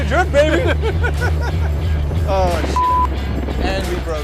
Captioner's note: both Laughing